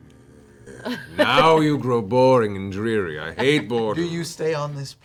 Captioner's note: exasperated noise